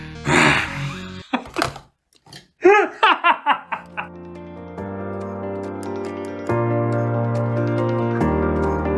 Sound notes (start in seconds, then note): 0.5 laughter